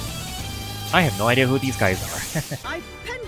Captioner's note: laughs